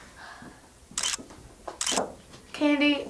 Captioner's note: camera clicks